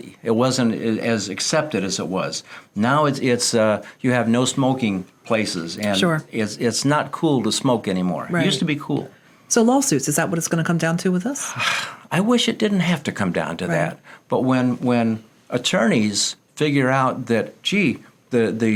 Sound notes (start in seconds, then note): 11.4 sighs